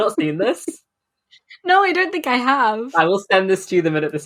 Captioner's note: laughs